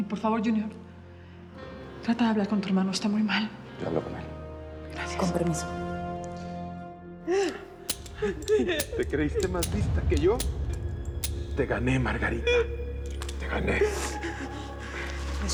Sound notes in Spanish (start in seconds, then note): 9.4 Sollozos